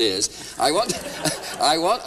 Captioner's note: laughter